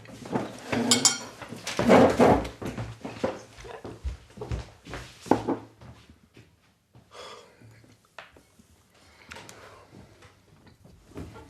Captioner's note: chairs scraping